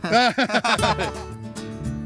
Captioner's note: laugh; lively acoustic guitar music